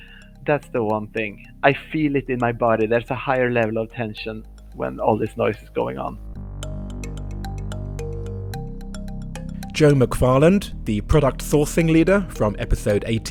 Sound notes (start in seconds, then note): 7.8 voiceover